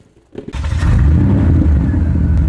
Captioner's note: engine start